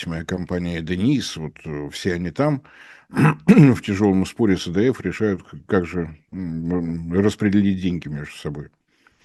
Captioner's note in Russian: откашливается